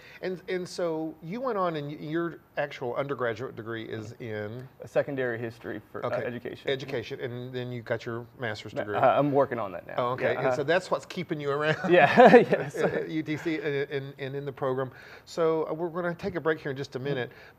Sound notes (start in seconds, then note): 11.6 laughing; 11.6 laughs